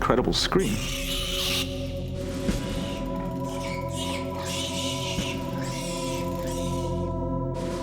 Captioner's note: pig screaming